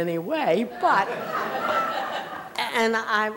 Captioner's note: laughter